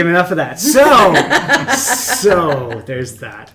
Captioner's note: all laugh